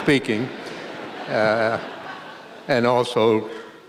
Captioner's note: laughter